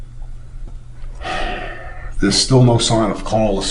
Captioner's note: sighing